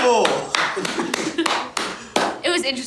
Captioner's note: clapping